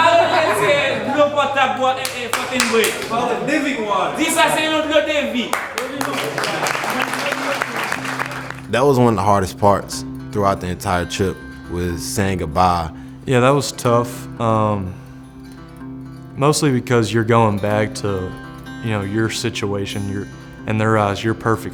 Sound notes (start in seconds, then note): 0.0 speaking in foreign language; 5.4 applauding; 13.5 voiceover